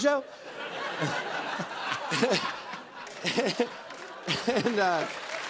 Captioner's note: laughter